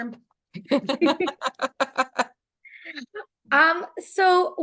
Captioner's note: laughs